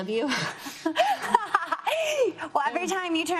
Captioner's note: laughs